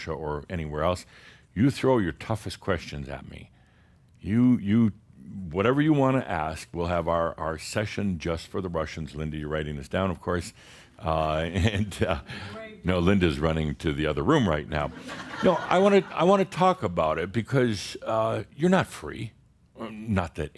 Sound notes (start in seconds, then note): 10.7 Adamus chuckles; 14.9 some chuckles